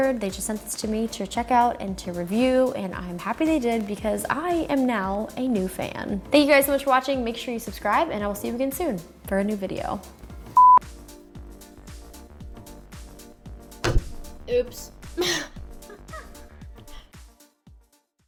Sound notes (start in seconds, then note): 10.6 beep; 15.8 laughs